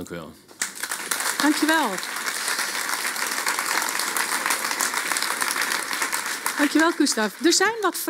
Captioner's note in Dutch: Applaus